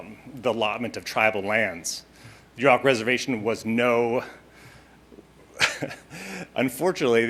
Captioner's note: chuckling